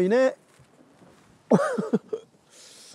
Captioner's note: laughing